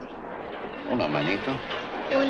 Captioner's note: Lin speaks Spanish; boy speaks Spanish